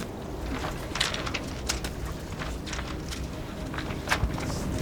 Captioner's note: rope rattling